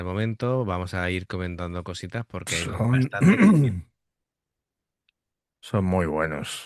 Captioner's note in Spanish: carraspeo